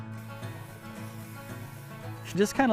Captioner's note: meat sizzling